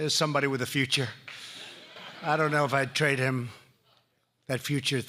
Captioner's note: laughter